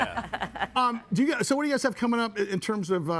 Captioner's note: guests laughing